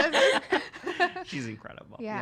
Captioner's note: laughing